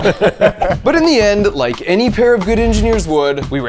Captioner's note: both laugh